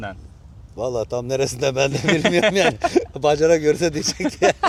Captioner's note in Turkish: kahkaha